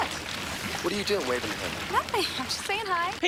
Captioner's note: water sloshing